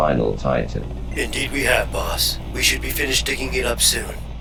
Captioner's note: Robotic voice; digitized male voice; Robotic voice